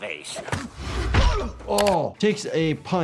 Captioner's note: Spider-Man grunts